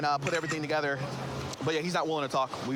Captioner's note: camera app clicks